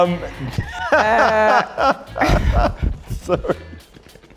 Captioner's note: laughing